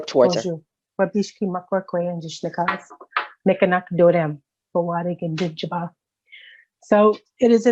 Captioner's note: speaking indigenous language